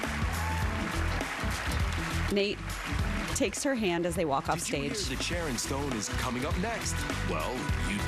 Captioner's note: applause